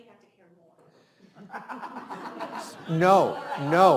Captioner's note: laughs